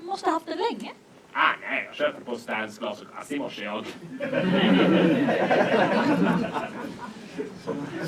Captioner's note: laughter